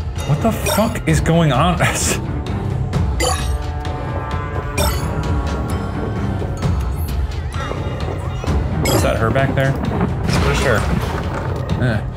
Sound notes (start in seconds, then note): 2.3 chuckles; 3.0 shards bleeping